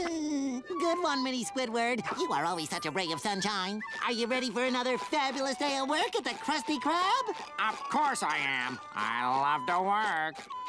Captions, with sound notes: Good one, Mini Squidward. You are always such a ray of sunshine. Are you ready for another fabulous day of work at the Krusty Krab? [imitating Squidward] Of course I am. I love to work!